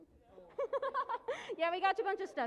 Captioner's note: laughing